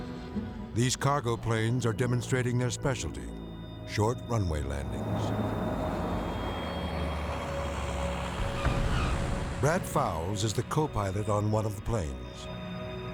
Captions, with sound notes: These cargo planes are demonstrating their specialty: short runway landings. (engine thrums) (tires screech) Brad Fowles is the copilot on one of the planes.